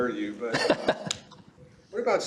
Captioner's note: laughs